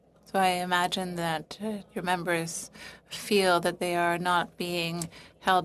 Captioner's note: speaking French